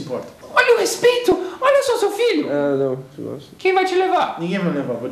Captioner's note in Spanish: murmura